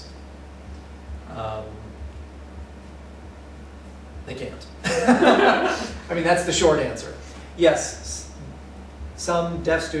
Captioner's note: laughter